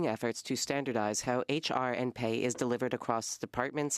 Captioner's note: speaking French